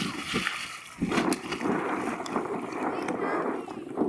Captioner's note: walking in water; splashes water; wind whooshing